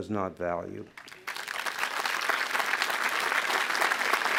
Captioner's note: applause